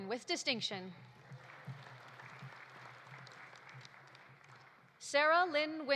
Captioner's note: audience applauding